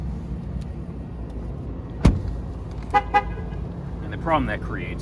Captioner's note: note annoying double honk when you close the door